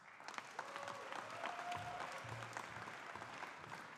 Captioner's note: audience applauding